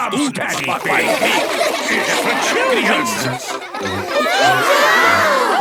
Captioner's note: children laughing